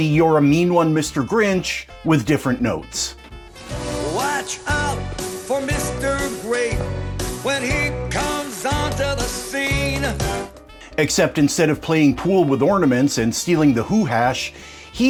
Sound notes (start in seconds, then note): 4.0 blandly